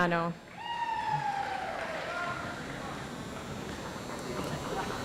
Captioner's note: audience applauds